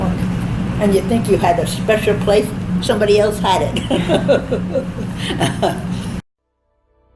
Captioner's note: laughs